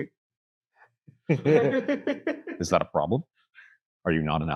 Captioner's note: laughs